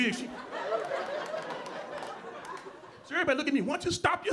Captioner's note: audience laughing